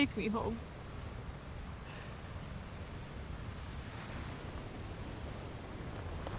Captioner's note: waves continue crashing